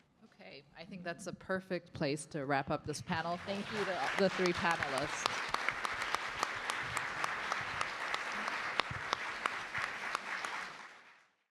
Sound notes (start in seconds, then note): 5.4 applause